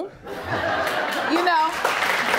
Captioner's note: audience laughing